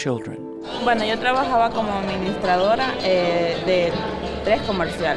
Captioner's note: lady speaking Spanish